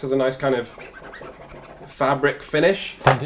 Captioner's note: scratching sound